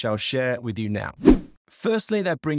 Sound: swooping transition

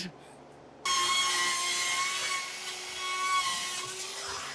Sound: saw buzzing

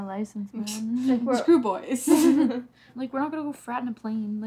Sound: chuckles

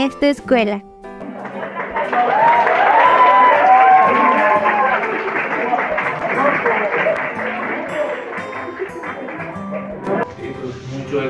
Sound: applause

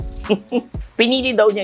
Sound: chuckles

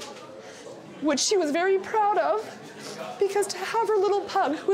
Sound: sniffles

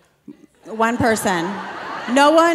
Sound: audience laughing

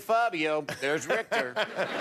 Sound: laughter

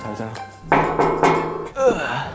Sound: knock-knock

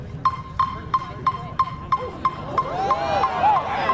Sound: metronome plays loudly; students cheer

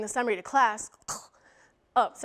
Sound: gags

